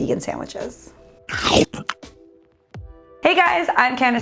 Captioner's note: person munching